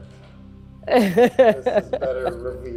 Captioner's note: laughs